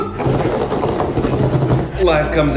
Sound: coughing; drumming fingers

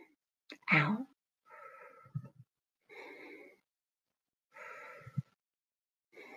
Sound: breathing

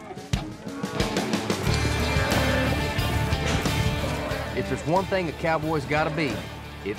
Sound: cows mooing

